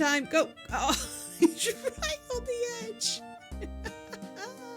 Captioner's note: laughing